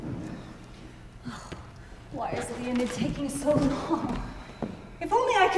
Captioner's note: sighs